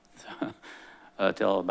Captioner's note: chuckles